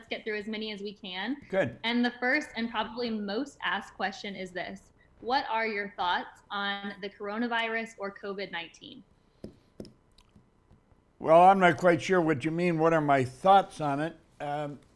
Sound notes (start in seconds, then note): 5.7 Bob taps pen against desk